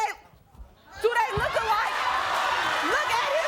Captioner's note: audience cheers